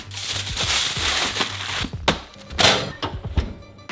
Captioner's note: foil rustling